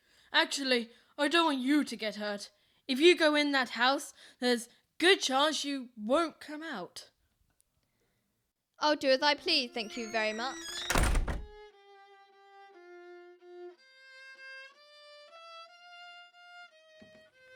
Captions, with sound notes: Actually, I don't want you to get hurt. If you go in that house, there's a good chance you won't come out. I'll do as I please, thank you very much. [door closes]